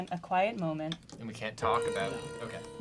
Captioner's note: pat